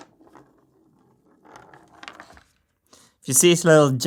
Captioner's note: marble rolls; marble released